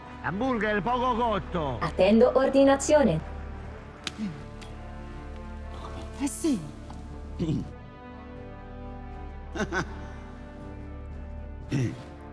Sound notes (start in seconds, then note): 7.2 Furia clears throat; 9.5 epic music playing